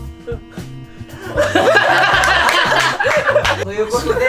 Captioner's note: laughs